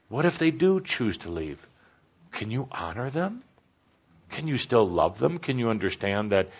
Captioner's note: none